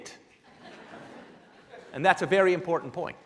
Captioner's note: laughing